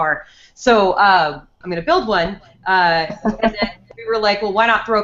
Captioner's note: laughs